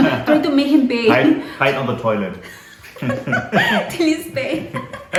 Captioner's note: risas